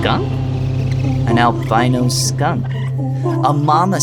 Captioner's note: skunks chittering